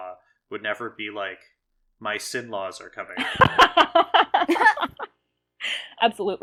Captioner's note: laugh